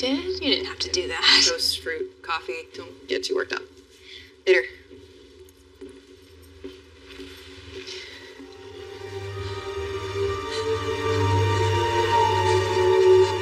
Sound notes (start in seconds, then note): 7.8 Tracycy breathes heheavily; 8.4 dramatic musisic